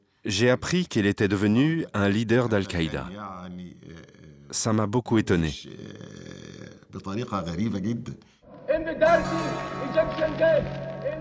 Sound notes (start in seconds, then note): 8.5 Ayman al-Zawahiri pleading; 10.1 background music